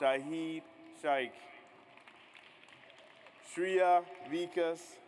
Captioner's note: audience applauds